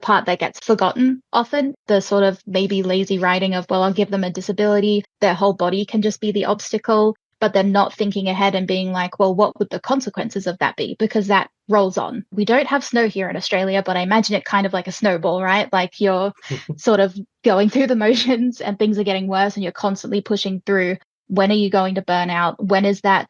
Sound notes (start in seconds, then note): 16.5 chuckles; 16.6 laughs